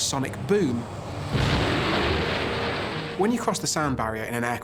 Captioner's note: loud boom